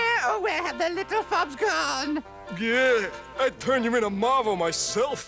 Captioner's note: groans